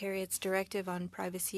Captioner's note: speaking French